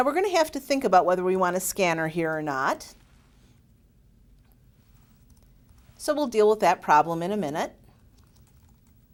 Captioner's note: typing